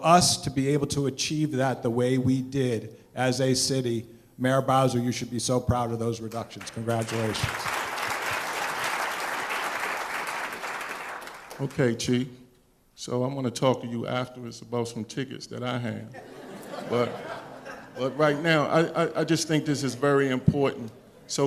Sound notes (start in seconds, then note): 9.2 applause; 16.1 laughter